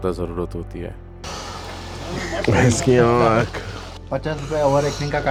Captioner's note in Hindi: नाक से की जाने वाली आवाज़